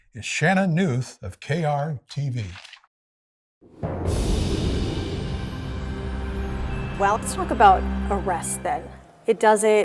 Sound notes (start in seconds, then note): 3.9 soft music; 3.9 wind whooshing